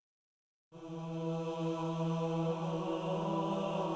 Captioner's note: chanting